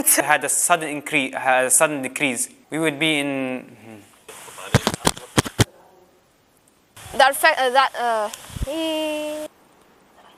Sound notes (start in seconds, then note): 4.6 microphone clicking; 9.1 groans